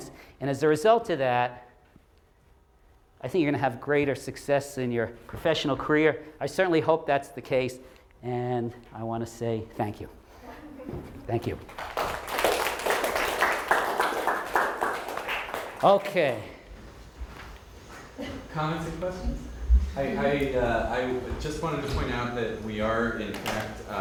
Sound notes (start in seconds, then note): 11.4 group applauding